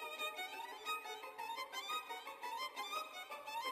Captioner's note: none